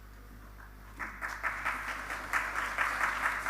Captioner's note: applause